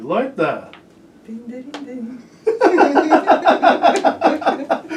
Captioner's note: laughing